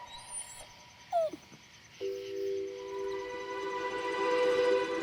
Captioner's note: Clementine whines; gentle music